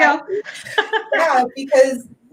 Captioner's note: laughing